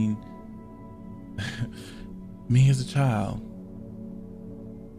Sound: chuckles

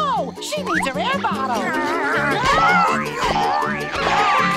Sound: groaning; grunting

